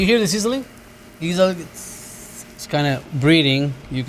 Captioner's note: hissing